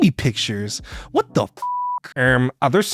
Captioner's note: beeps